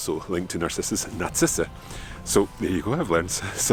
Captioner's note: speaks in foreign language